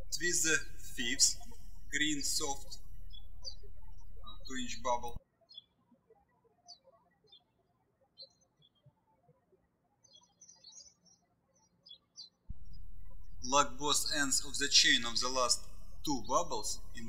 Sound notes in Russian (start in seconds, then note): 0.0 птички щебечут; 5.5 птички щебечут